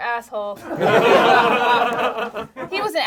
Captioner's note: group laughs